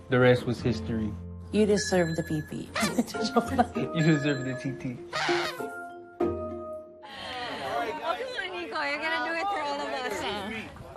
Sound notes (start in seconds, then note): 2.8 chuckles